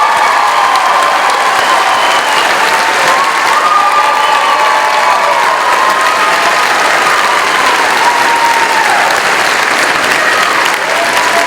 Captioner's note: cheering